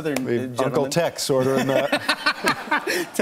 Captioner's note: laughing